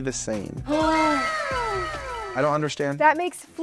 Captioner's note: woman gasps